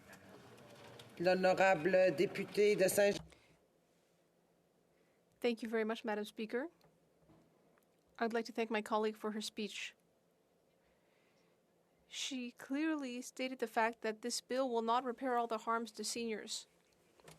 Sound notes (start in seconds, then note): 9.0 speaking French